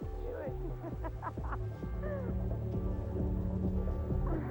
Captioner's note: uptempo dance music; Iris laughing